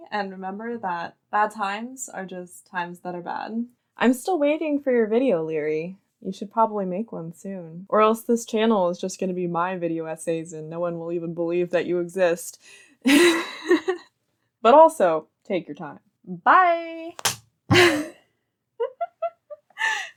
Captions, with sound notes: and remember that bad times are just times that are bad. I'm still waiting for your video, Liri. You should probably make one soon or else this channel is just going to be my video essays and no one will even believe that you exist. Haha. But also, take your time. Bye! (Crack) Hahahaha (gasp).